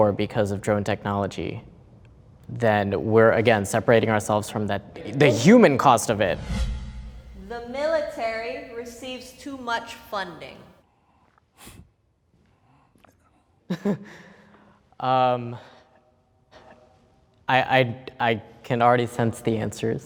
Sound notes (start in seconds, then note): 5.3 air whooshing; 13.7 chuckling